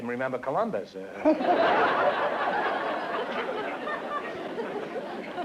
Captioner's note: laughter